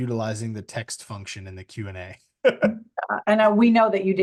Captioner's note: laughs